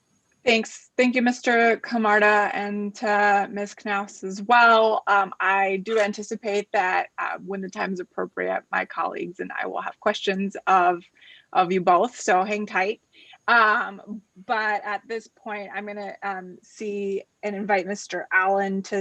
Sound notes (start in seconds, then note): none